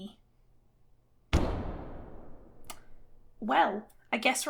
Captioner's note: loud Thud